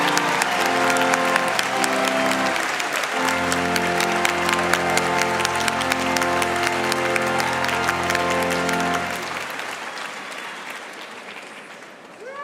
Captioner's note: applause